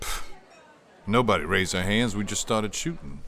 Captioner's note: scoffing